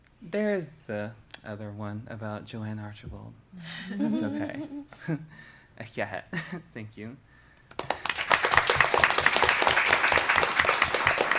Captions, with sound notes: There is the other one about Joann Archibald. OK. [NON-ENGLISH], thank you. [APPLAUSE]